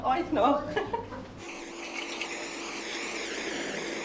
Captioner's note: hissing in the background